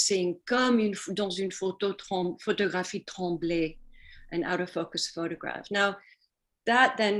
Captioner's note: speaking french